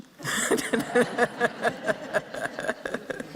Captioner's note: laughter